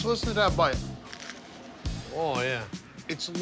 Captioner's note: crust crunching